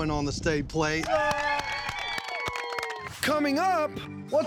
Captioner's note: cheering, clapping